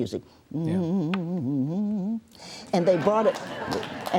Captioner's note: hums